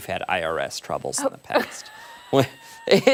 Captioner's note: laughter